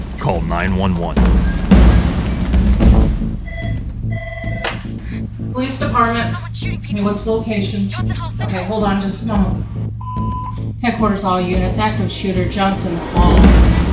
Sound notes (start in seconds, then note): 4.0 phone rings; 6.2 person on phone, muffled